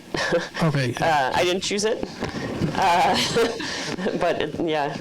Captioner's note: laughs; laughs